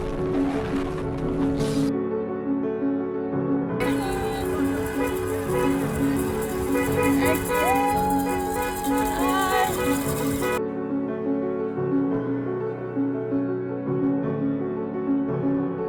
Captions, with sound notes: [ Horns honking ] >> Thank you. Hi.